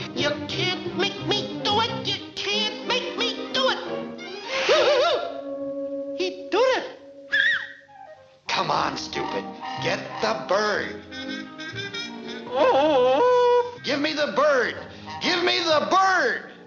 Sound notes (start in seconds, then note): 4.3 exclaims; 7.2 whistles; 12.4 wailing